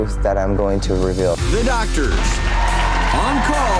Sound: crowd cheering

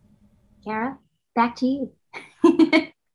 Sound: laughs

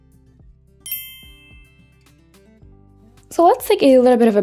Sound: bell chiming

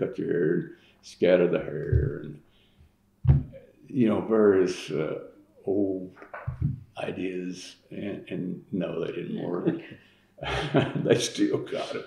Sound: laughs

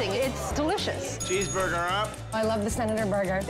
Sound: bell dinging

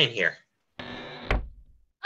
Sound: cabin door creaks

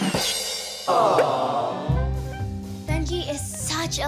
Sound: crowd exclaims

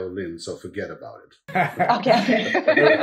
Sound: laughs

